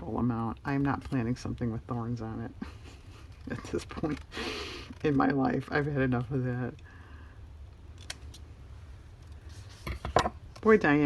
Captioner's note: laughs